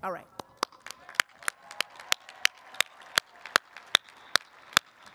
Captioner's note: audience applauds